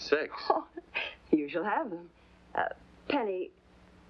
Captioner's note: chuckles